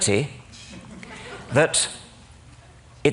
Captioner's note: laughter